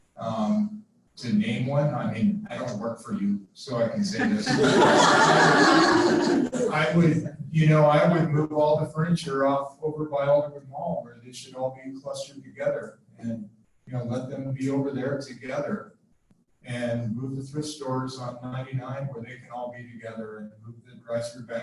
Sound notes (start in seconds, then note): 4.0 laughter